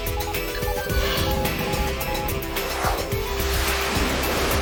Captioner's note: rapid beeping; jet engine roaring